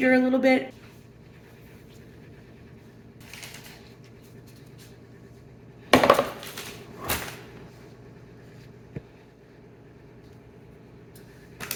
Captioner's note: background kitchen noises